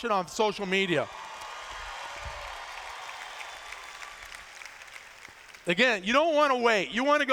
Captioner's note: cheers